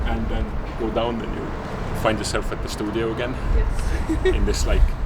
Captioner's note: laughs